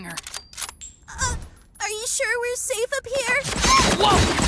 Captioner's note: shell clatters; gunfire; screams